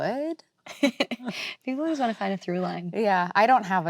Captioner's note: laughs